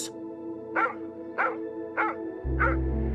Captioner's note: dog barks; soft music continues